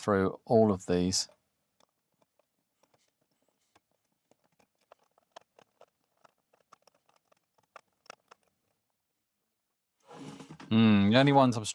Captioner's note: silence